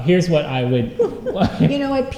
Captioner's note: laughter